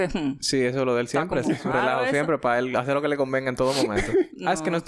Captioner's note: laughs